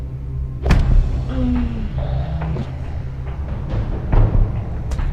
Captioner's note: punch thudding; woman groaning; tense music continues